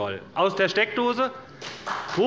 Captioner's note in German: Beifall des Abg